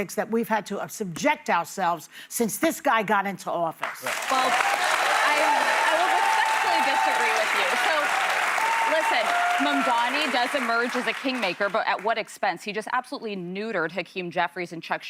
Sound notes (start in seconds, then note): 6.2 applause